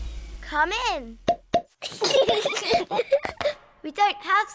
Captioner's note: horn honks; both giggling